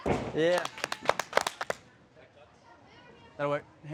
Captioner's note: clapping